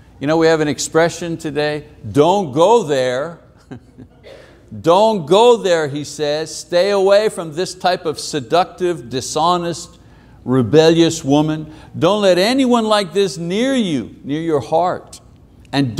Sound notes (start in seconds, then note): 3.6 chuckling; 3.6 audience member chuckling